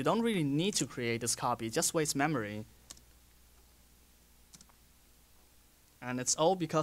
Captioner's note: pause